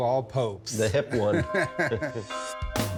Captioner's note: both laughing